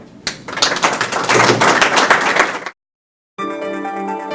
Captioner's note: people clapping; cheerful instrumental music